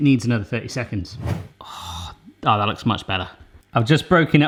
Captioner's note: whooshing